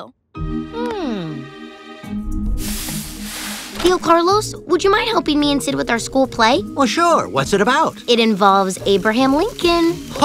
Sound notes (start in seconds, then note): 0.1 inspirational music; 2.6 iron hissing